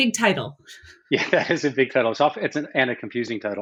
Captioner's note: laughs